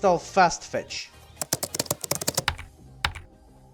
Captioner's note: typing